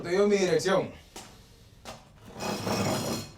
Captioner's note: scraping